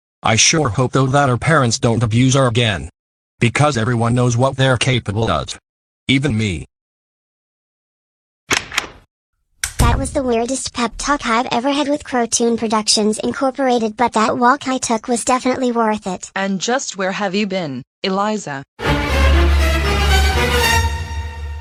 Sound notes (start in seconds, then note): 9.6 door closes; 18.8 dramatic music sting